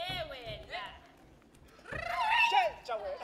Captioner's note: shouting